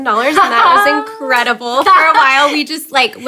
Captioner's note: laughing